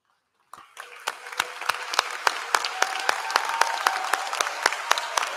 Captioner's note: applause